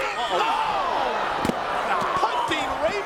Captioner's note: body thuds